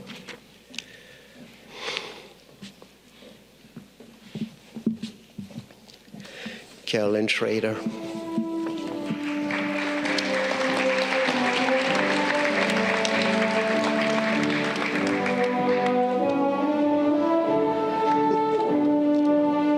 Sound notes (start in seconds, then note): 8.6 audience clapping; 12.7 upbeat music